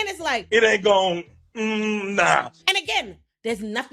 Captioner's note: none